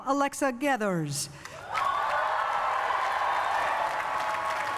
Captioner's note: cheering and applause